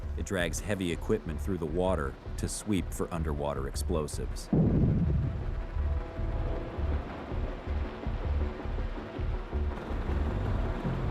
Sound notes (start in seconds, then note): 4.5 explosive booming; 6.1 light, tense music